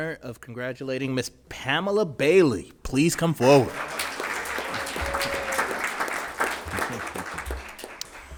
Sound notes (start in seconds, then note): 3.4 audience cheering